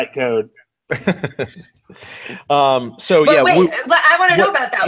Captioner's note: chuckles